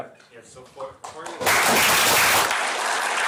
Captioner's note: applause